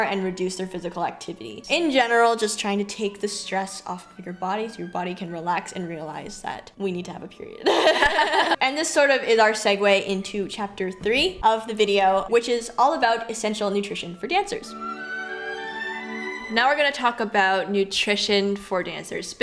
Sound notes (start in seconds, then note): 7.6 both laugh; 15.1 gentle music